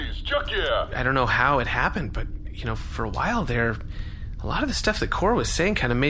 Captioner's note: shouting; quietly